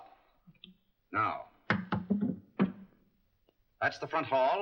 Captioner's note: top clatters down